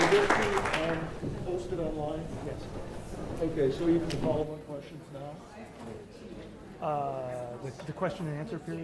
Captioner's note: applause